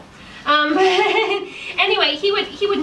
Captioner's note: laughs